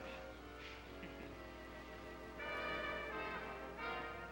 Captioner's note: Gina chuckles